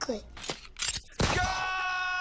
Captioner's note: gun %*#, fires